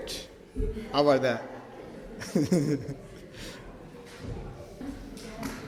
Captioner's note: laughs